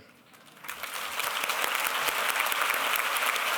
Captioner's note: applause